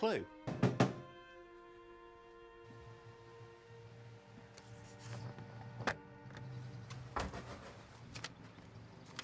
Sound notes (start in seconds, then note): 0.0 pensive music; 0.5 James knocking